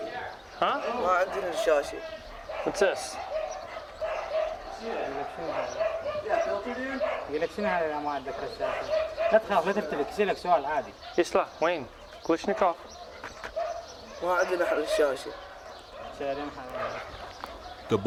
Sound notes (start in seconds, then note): 0.1 boy speaks in Arabic; 4.0 dogs barking; 11.9 in Arabic